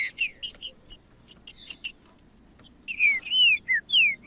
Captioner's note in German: trinca ferro cantando